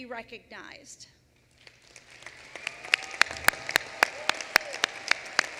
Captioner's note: applause